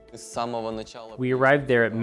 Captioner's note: speaking in foreign language